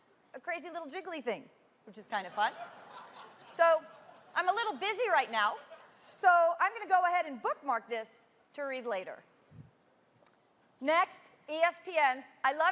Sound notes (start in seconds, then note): 7.2 laughter